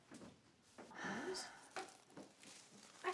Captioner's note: Caralique sighs